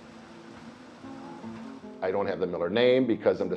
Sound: machine whirring

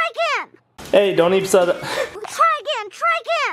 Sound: laughs

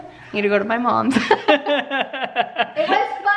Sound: laughing

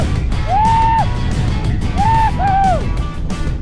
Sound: group cheers

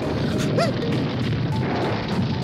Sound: gasps

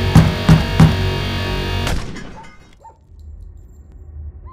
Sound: gunshot

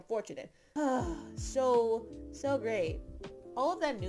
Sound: exhausted sigh

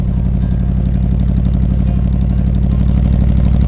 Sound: car engine

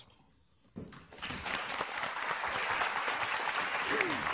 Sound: clapping

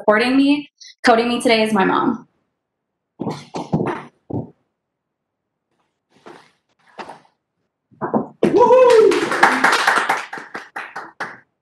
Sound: cheering

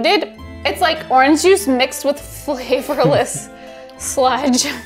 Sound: chuckling

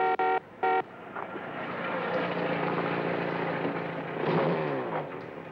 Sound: horn honking; engine rattling

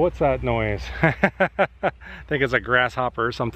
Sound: laughter

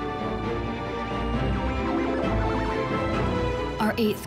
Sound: electronic frequencies

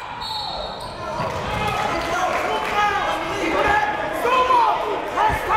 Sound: cheering and yelling

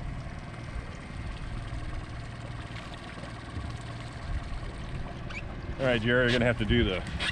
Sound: boat engine idling

